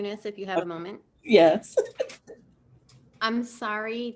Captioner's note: chuckles